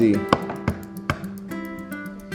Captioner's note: egg cracking; gentle music